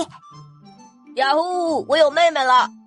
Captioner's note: sniffles